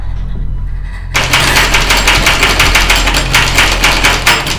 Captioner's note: knob rattles